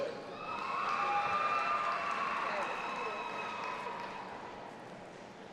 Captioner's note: audience applauding and cheering